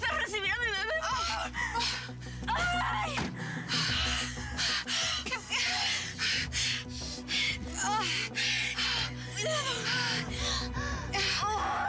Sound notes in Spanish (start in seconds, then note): 3.6 siguen los gritos y quejidos